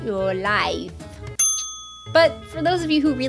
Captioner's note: ding!